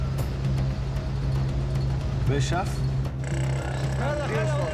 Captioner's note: man speaking native language